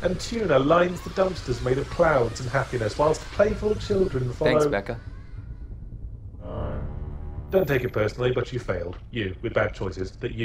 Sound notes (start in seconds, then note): 7.7 voiceover